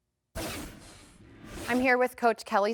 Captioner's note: transition scrapes